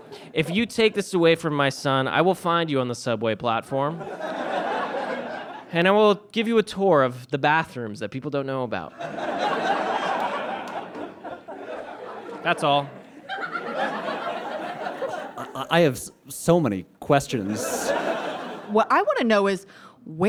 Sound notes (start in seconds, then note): 4.0 audience laughs; 9.0 audience laughs heartily; 13.5 audience laughs